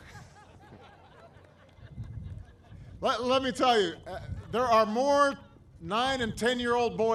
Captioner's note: laughter